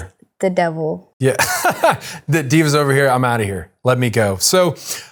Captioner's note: laughing